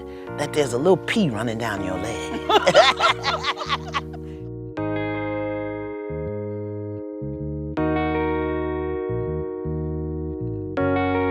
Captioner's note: laughter